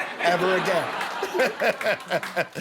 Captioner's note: laughter